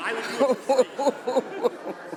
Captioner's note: laughter